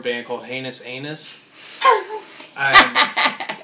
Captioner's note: laughter